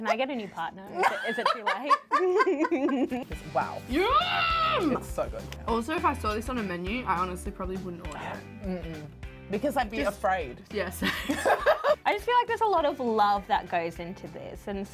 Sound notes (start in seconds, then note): 0.9 laughing; 11.0 both laughing